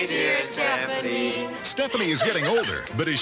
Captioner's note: Stephanie bursts into tears